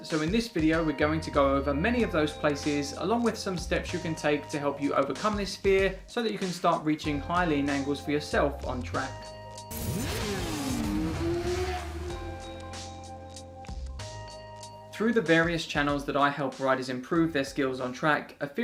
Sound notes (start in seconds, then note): 9.7 motorcycle revving; 11.7 upbeat music